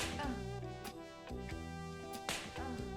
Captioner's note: smack